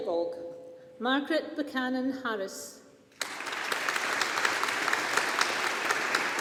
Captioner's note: audience applauding